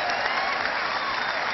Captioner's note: cheering